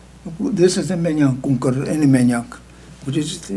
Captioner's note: speaking tibetan